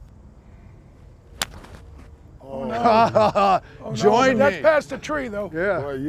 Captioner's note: sound of club hitting ball